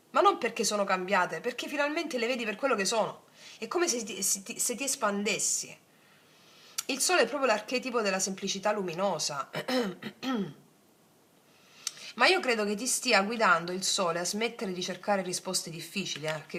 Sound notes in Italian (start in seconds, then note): 9.5 tosse; 9.6 schiarire la voce